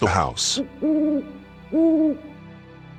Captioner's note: owl hoots